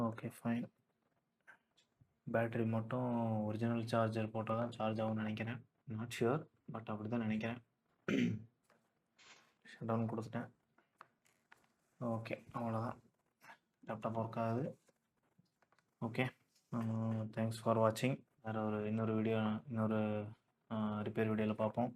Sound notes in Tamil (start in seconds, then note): 8.0 தொண்டையைச் சரிசெய்தல்